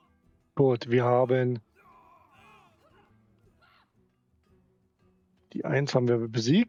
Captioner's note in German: schreien; jubel